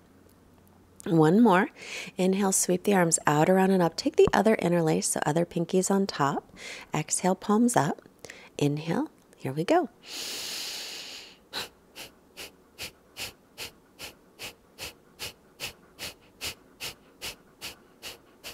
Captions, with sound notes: One more. Inhale, sweep the arms out, around, and up. Take the other interlace, the other pinky's on top. Exhale, palms up. Inhale, here we go. (short repetitive exhaling)